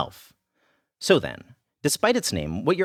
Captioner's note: pause